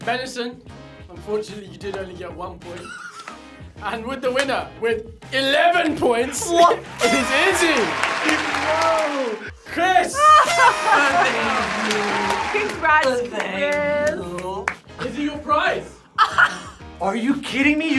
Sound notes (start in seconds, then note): 0.0 upbeat music; 2.8 laughs; 6.8 crowd cheers; 10.1 laughs; 16.1 laughs